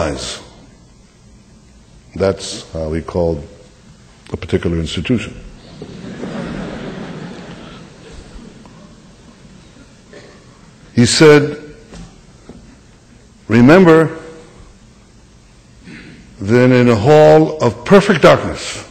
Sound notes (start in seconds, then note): 5.6 laughter